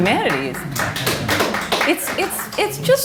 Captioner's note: applause